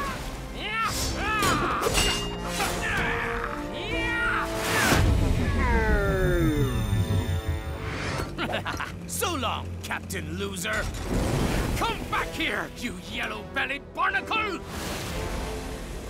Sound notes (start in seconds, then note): 0.2 both grunting; 5.4 Knuckles screaming in slow motion; 8.3 laughing